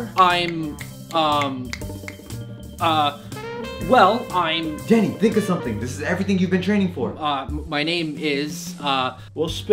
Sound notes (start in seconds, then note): 1.6 snapping